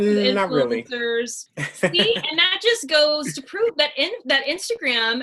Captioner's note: chuckles